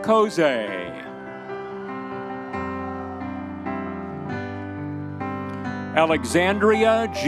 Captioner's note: audience members cheering